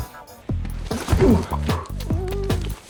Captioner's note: thump